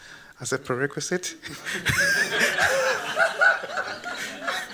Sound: laughter

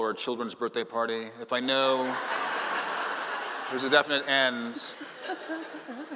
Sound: laughing

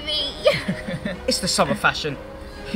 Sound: laughing

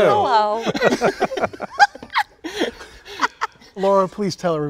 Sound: all chuckling

